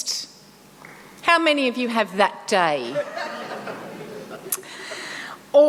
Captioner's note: laughter